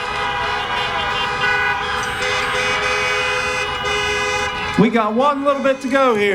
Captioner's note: applause